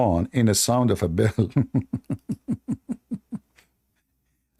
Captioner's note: Ketawa